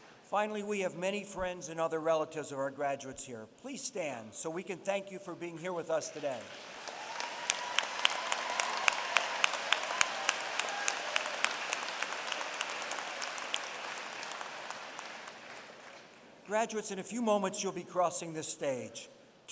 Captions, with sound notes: Finally, we have many friends and other relatives of our graduates here. Please stand, so we can thank you for being here with us today. [APPLAUSE] Graduates, in a few moments you'll be crossing this stage.